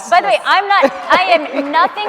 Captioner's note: audience members laughing